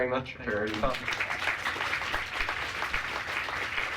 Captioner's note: applause